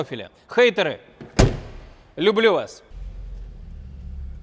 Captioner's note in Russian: звук захлопывающейся двери